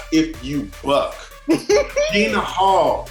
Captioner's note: laughs